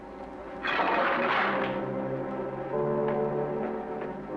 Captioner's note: chain rattles; suspenseful music